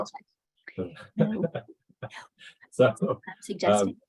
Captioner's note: laughs; laughter